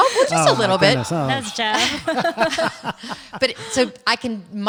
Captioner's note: all laughing